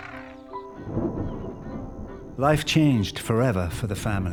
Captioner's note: thunder rumbling